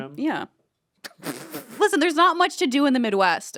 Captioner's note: Anthony laughs